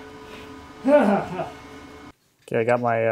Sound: sighs

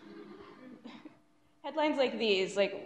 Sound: audience laughs

